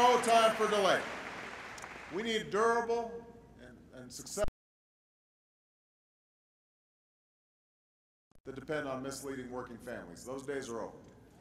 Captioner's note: applause